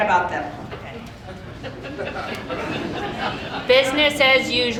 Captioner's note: audience laughing